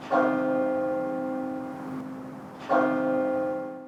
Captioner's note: bell tolls